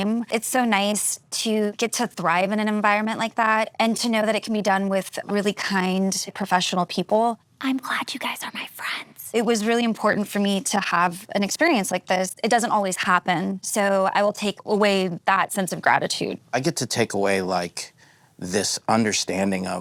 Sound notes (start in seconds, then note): none